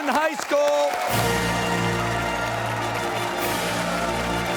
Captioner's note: cheers and applause